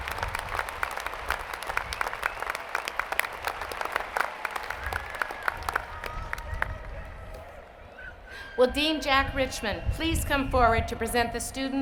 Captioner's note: applause